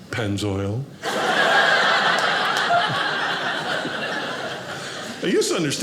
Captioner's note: audience laughing